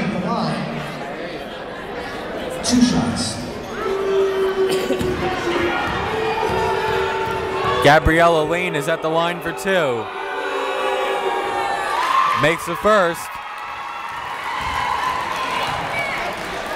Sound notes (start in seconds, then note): 4.9 yelling; 15.2 cheering